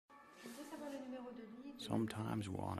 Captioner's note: woman speaking in French in background